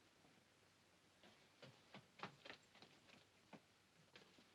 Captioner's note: feet scampering up stairs